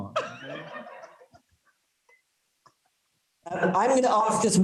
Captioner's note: students laughing